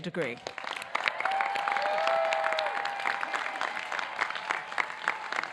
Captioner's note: audience clapping